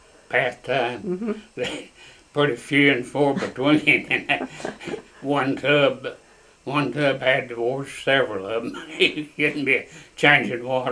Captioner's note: laughter